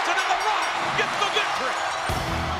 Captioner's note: bell rings